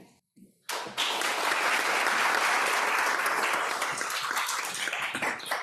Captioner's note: applause